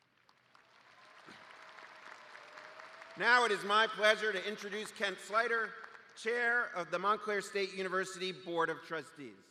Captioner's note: applause